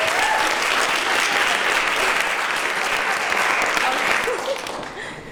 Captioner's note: applause